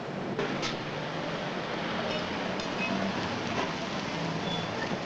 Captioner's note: car rumbling